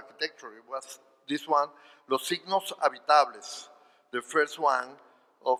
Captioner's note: speaking spanish